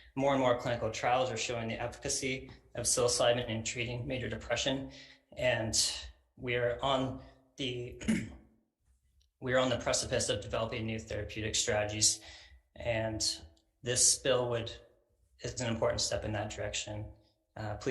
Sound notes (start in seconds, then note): 8.0 clears throat